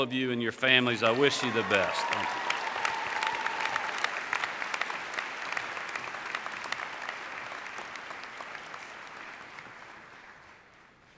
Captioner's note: applause